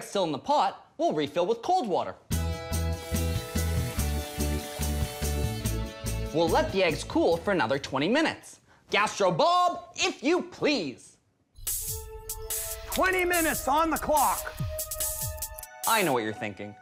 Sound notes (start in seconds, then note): 12.4 clicks timer